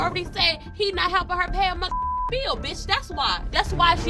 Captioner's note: beep